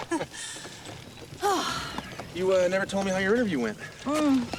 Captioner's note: both chuckle; sighs